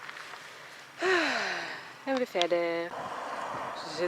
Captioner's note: sighs